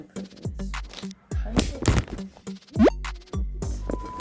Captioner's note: tripod falls